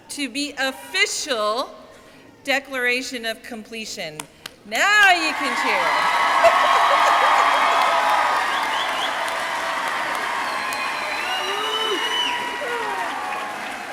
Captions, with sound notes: to be official declaration of completion. Now you can cheer. (audience cheering) (audience clapping)